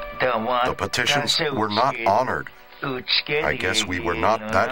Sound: Spoken Cherokee

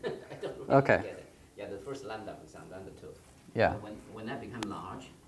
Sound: laughter

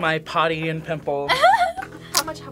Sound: laughs

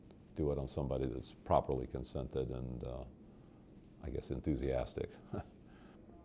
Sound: chuckle

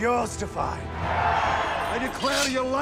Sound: crowd cheers

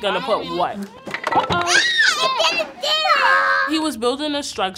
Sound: gleeful screams

